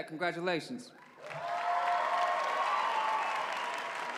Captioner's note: cheering